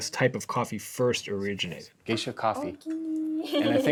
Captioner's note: speaks Japanese